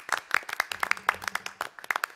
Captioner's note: applause